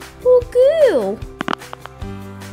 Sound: click!

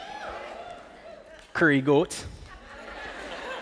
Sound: cheering; Jamaican accent; laughter

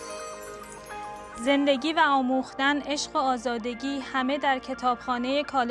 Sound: speaking in Farsi

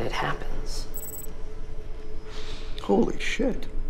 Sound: electronic beeping

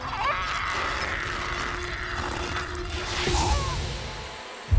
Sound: Brigit screaming

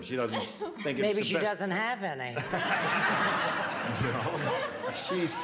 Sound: audience laughs

